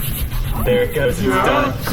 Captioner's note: the laser grid groans